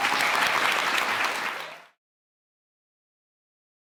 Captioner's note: audience clapping